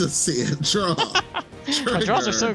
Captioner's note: laughs